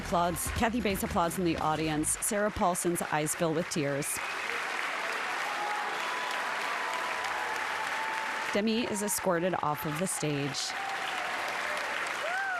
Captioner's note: applause